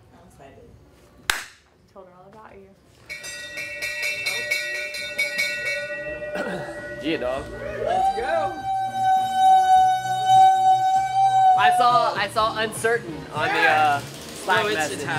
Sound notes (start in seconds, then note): 1.3 claps; 3.1 bell dinging; 7.4 whooing